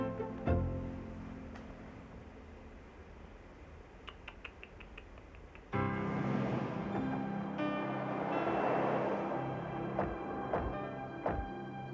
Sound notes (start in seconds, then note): 3.8 tuts; 5.7 peaceful music